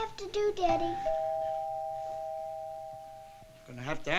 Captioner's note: doorbell ringing